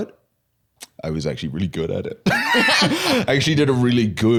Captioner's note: laughs